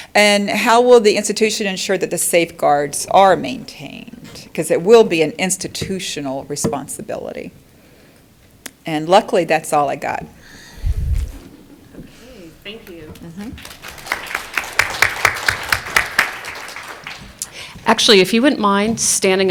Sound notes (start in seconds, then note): 13.5 applause